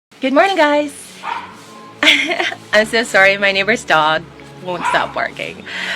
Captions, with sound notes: Good morning, guys! (dog barking) I'm so sorry, my neighbor's dog won't stop barking.